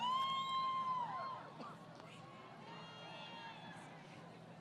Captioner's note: crowd Cheering